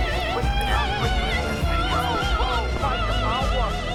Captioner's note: fierce clicking